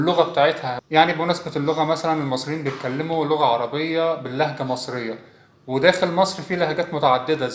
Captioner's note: Arabic